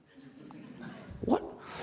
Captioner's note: audience laughs